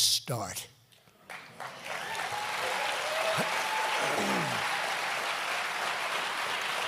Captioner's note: applause